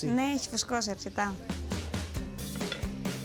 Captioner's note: speaking greek